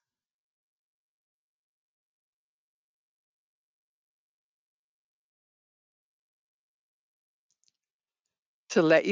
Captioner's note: 8 seconds pause